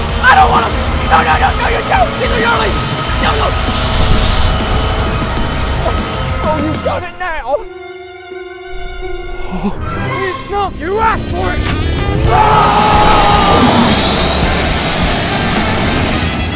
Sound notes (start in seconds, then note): 7.7 suspenseful music; 9.7 gasps